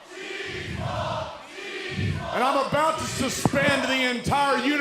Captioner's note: crowd cheering